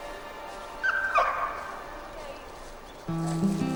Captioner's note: dog yelps